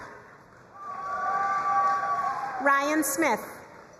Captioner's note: crowd cheering and applauding